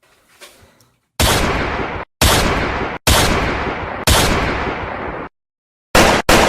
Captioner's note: gunshots